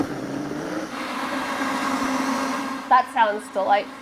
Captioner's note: blender whirring